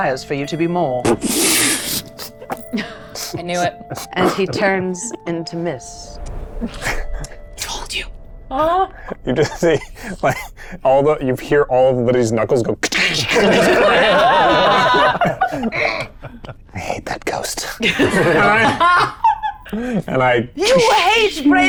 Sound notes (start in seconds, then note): 2.4 chuckling; 6.6 chuckling; 8.9 chuckling; 13.3 all chuckling; 17.8 chuckling